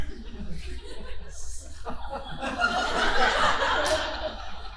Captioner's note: audience laughing